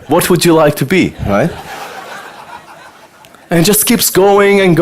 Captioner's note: audience laughter